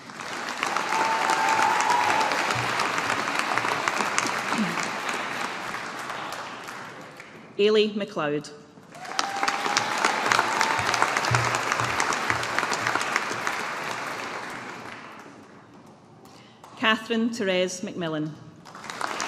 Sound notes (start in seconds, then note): 0.0 audience applauding; 8.9 audience applauding